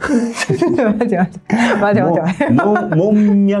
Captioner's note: laughs